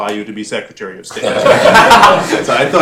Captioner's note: laughter